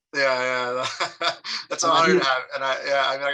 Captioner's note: laughs